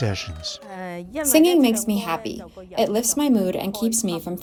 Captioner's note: through translator